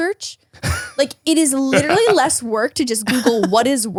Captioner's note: laughs